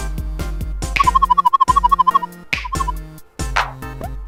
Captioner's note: warbling sound